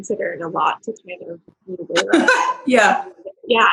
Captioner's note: laughs